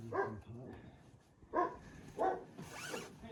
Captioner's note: dog barks